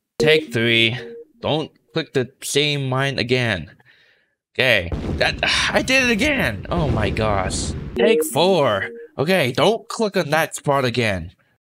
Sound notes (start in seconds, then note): 4.9 Minesweeper explosion sound